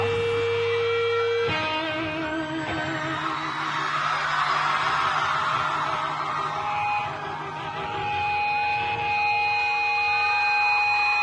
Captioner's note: audience cheers + guitar screeching